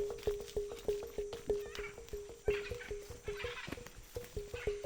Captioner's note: birds calling; gentle music continues